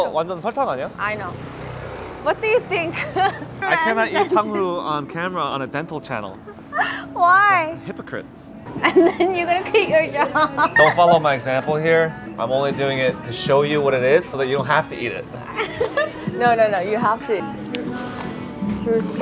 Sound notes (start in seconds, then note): 0.0 speaking in Korean; 2.8 laughing; 15.5 laughing